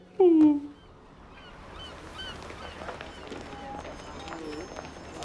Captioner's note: seagulls squawking